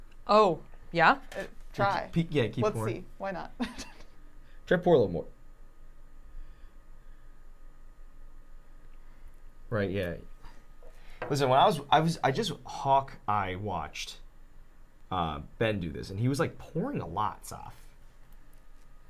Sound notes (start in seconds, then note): 3.6 chuckling